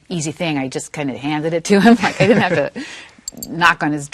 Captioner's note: laughing